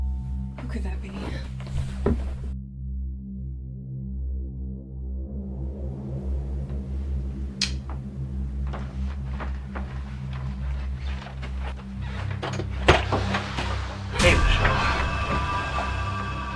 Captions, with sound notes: Who could that be? (Light switch clicks) Hey Michelle.